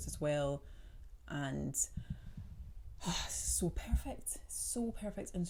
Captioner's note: exhales